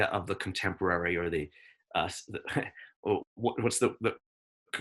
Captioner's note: chuckles